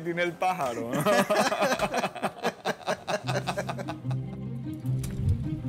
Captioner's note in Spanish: Laugh